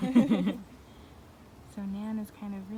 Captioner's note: laughter